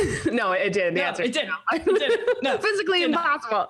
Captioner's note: laughing